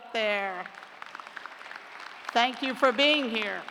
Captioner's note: applause